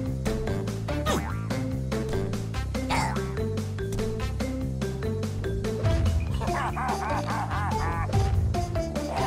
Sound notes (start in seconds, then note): 6.3 laughs